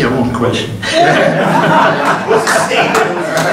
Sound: group laughing

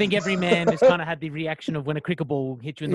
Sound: laughs

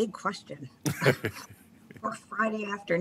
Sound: laughs

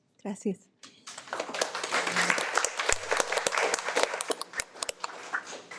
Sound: audience applauds

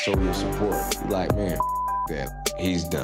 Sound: beep

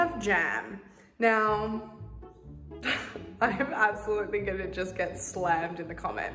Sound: chuckles

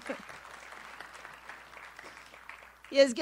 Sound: audience applauds

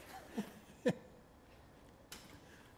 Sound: laughter

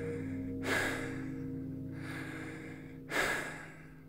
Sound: heavy breathing

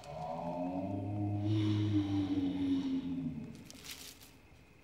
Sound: growling

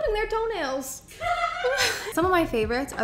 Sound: people laughing

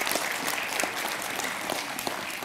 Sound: applause

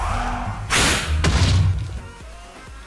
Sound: explosion

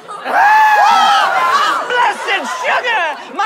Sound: screaming

